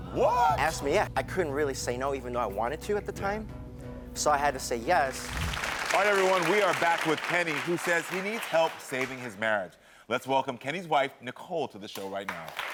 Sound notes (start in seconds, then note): 5.1 audience applaud